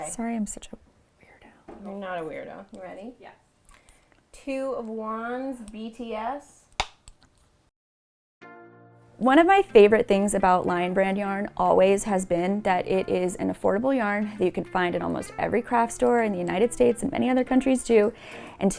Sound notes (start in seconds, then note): 6.8 slate claps